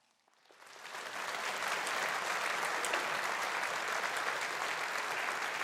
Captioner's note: audience applauding